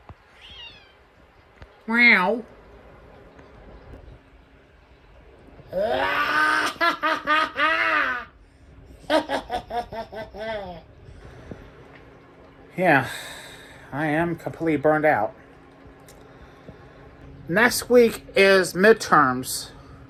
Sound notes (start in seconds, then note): 0.3 Caprice meows; 0.4 imitates a meow; 1.1 Caprice giggles